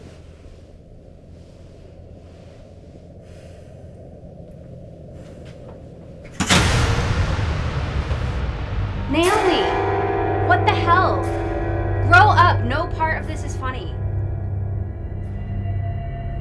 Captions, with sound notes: (slamming sound) Naomi! What the hell? Grow up! No part of this is funny!